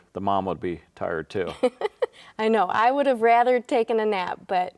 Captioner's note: laughs